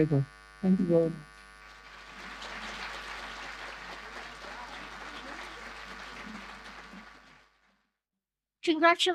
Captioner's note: audience applause